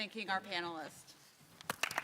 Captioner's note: applause